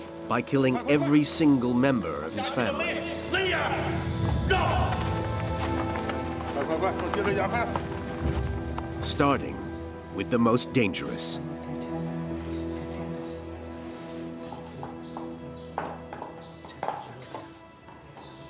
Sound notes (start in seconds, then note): 3.1 man shouts in foreign language; 6.5 man speaks in foreign language; 15.0 tense ambient music